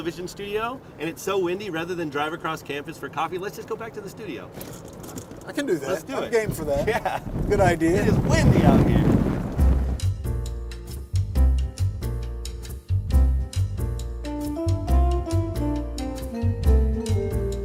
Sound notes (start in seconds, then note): 6.7 chuckles; 9.4 soft jazzy music